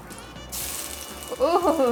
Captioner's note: steak sizzling